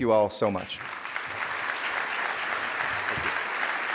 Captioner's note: audience applauding